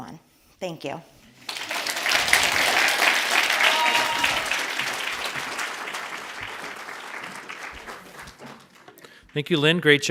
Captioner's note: audience applauds